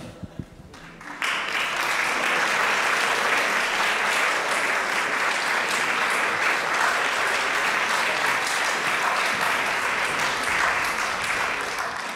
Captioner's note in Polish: oklaski